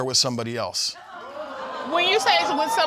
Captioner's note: audience exclaiming